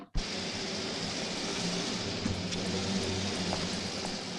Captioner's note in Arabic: هدير المحرك